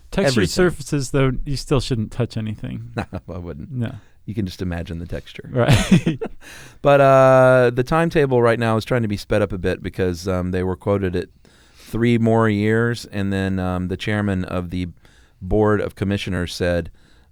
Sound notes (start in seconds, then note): 2.7 laughs; 5.6 laughs